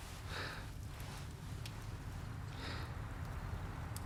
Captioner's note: heavy breathing